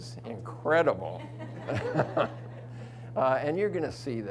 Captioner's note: audience chuckles